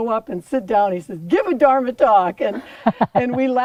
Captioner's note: laughter